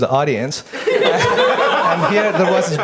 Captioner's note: audience laughs